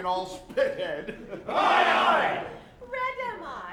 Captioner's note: men agree